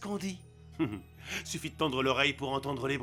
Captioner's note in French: rires